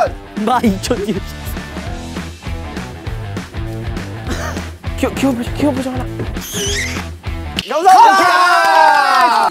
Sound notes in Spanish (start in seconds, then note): 2.3 Respira fuerte sin bailar; 4.2 jajaja